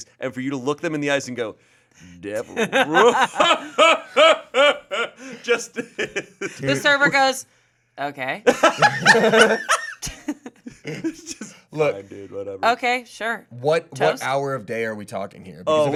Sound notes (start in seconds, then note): 2.3 laughs; 8.4 group laughing